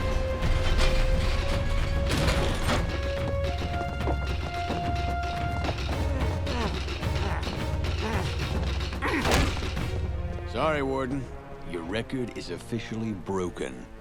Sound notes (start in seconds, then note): 5.6 groaning